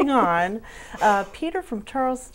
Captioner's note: laughing